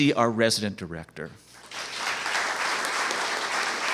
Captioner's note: applause